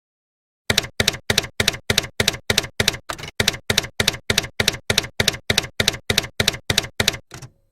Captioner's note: typewriter keys clacking